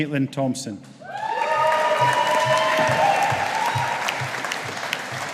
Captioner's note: audience applauding